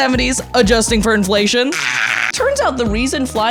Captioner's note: shrieks